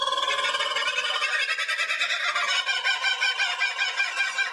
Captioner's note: kookaburra making noise